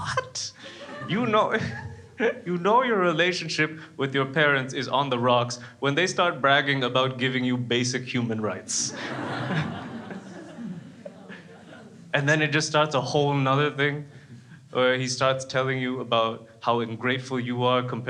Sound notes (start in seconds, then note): 0.6 laughs; 8.8 crowds laughs